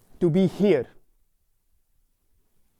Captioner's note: none